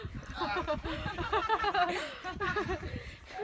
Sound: laughter

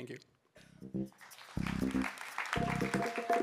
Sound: applause

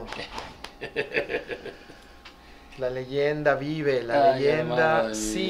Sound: laugh

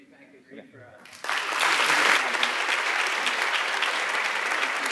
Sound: audience applauding

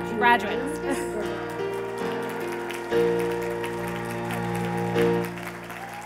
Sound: cheers and applause

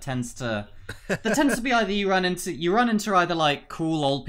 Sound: laughter

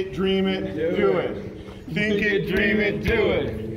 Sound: all chanting

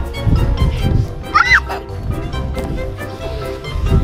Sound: yelling

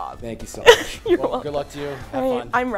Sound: chuckling

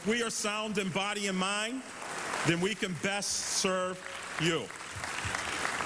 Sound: applause

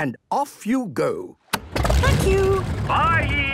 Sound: engine starting

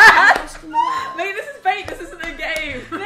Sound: all laughing

